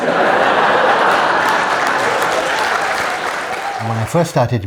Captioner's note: laughter